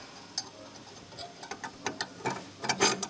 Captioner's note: rattles